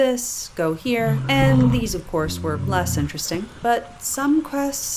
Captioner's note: bear growls